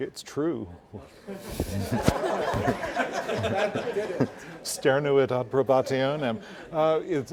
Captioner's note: laugh